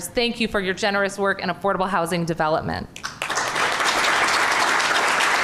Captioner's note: applause